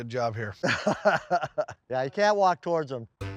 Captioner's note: laughs